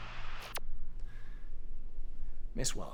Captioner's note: radio chirps